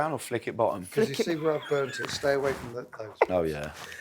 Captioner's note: laughs